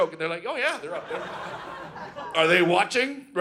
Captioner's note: audience laughing